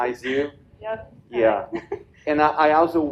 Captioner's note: laughs